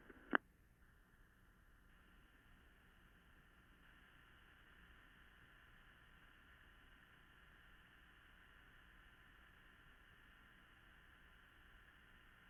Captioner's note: extended silence